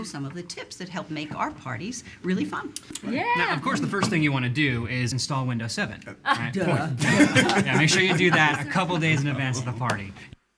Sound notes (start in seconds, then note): 6.3 people laughing